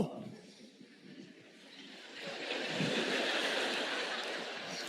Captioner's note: audience laughing